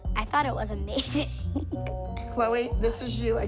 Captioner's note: laughs